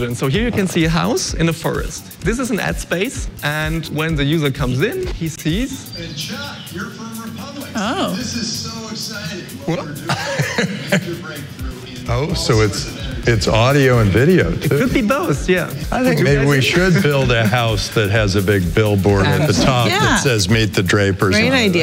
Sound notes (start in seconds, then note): 5.8 advertisement playing; 9.7 laughs